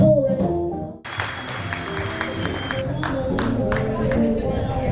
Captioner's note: jazz music; applause